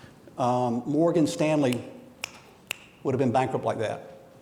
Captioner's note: fingers snapping